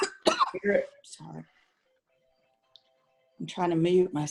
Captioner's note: coughs